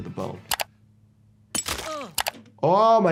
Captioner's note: mouse clicking; hammer clinking; victim grunting